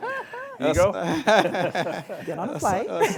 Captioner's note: laughter